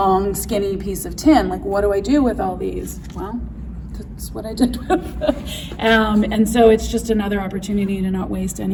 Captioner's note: laughs